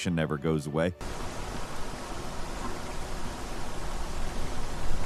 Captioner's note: water crashing